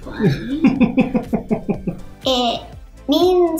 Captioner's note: dad chuckles